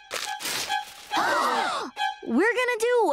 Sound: gasping

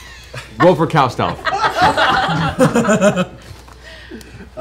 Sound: laughter

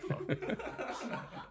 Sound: laughing

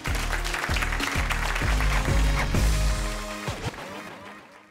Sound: audience applauding

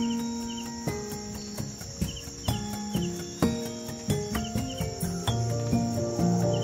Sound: light drums banging; soft bells ringing

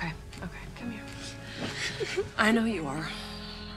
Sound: sobbing

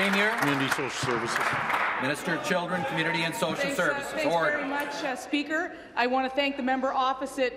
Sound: applause

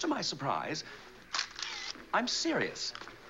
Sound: camera shutter clicks

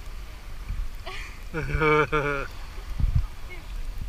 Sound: chuckling

